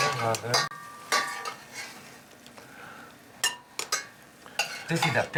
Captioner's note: spatula clatters